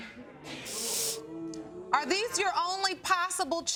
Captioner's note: audience booing